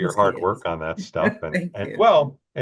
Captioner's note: chuckles